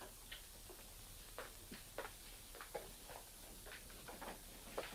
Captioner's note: footsteps tapping